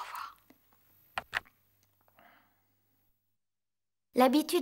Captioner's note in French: clic de téléphone